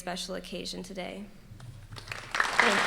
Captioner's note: applause